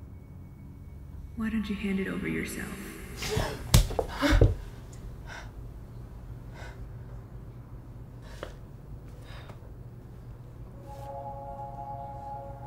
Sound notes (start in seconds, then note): 3.0 gasping